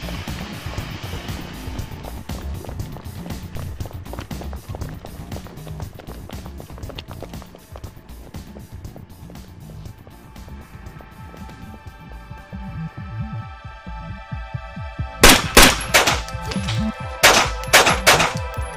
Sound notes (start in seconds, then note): 10.3 tense music; 15.2 guns firing